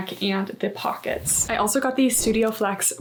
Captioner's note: graphic whooshing